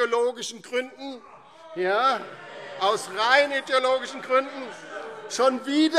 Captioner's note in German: Lebhafte Zurufe Freie Demokraten